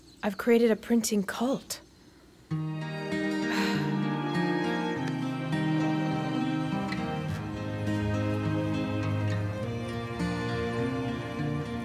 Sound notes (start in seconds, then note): 3.3 sighs; 4.7 calm music